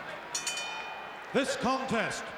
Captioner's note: bell rings